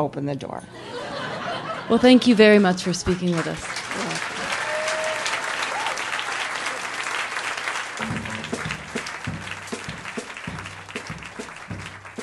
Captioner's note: audience laughs; applause